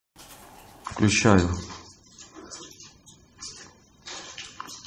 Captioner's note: sound processed